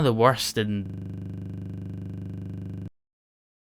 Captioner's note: bzzzzz